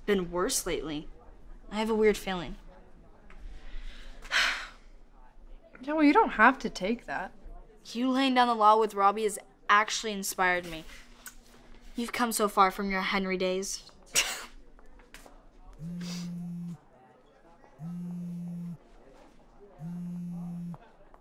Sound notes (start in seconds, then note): 3.7 sighs; 13.7 laughs; 15.9 phone vibrating